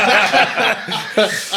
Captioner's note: laughing